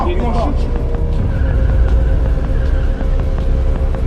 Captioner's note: tires squeal